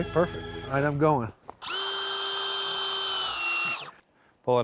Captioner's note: drilling sound